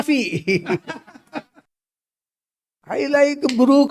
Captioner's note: laughs